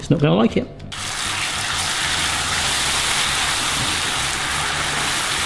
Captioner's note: pan sizzles aggressively